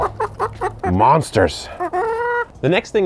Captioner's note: chickens clucking